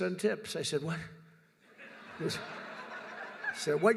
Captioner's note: laughter